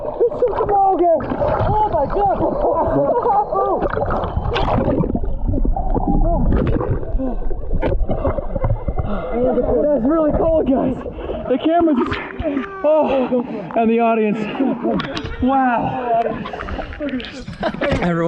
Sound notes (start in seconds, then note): 3.9 all laughing; 7.9 panting